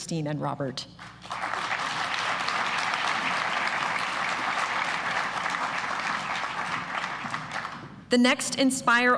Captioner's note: applause